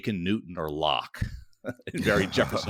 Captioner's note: laughing